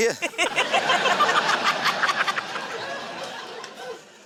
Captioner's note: laughter